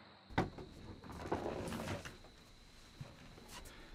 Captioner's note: crickets chirping